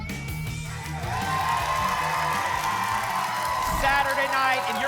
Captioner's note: applause and cheering